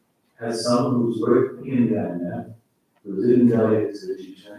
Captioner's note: faintly speaking